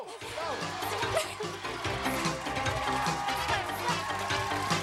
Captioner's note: laughs